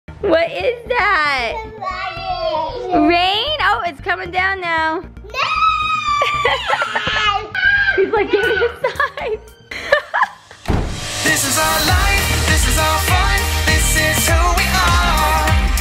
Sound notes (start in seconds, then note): 6.0 laughs